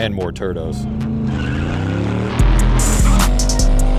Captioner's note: engine noises